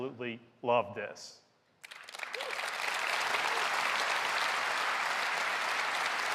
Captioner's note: applause